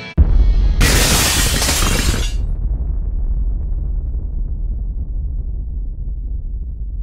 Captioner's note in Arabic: انفجار قوي; تحطيم زجاج